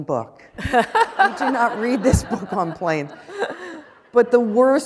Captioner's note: laughter